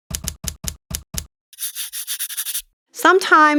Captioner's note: marker scribbles